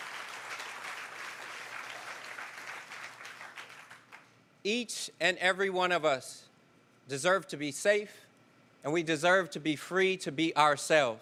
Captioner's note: cheers & applause